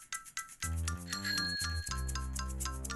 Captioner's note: bell rings; light playful music